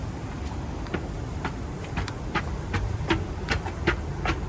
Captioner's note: footsteps plodding